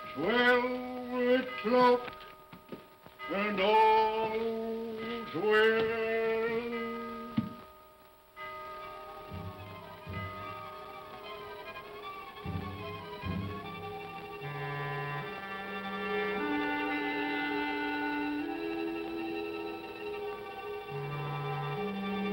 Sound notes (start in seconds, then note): 6.8 clock chimes; 8.4 tense haunting music